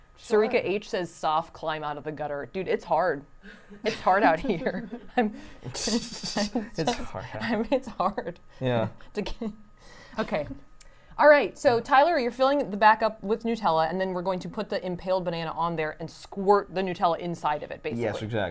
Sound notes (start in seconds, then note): 3.5 laughs